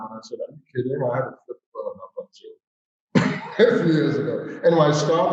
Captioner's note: laughs